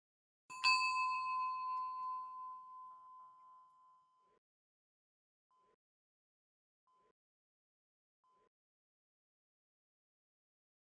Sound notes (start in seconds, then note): 0.5 bell chimes